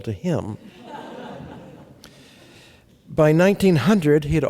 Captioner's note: laughter